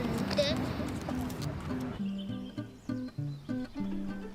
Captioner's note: birds chirping